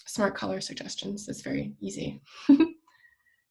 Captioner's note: chuckles